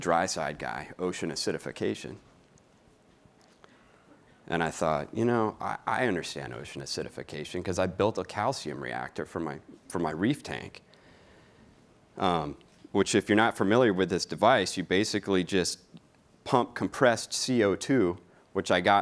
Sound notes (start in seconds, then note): none